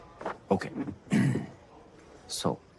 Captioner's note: clears throat